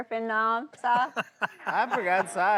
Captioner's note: Si laughs